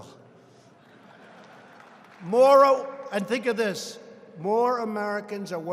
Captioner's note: laughter